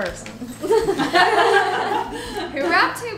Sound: laughter

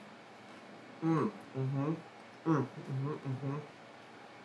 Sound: moaning

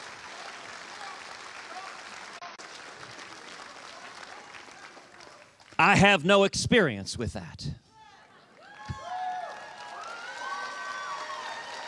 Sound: cheers and applause

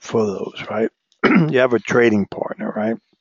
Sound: cough

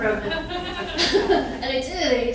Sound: laughing

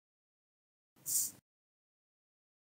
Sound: tss

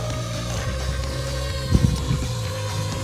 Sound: motor sound

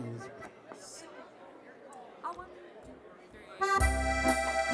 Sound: chattering

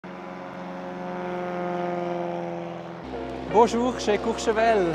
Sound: plane engine roaring

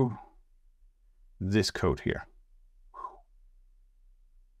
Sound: phew

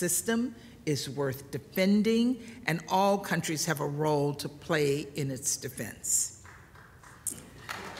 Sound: applause

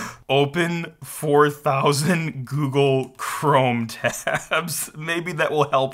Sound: laughs

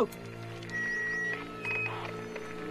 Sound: radio static

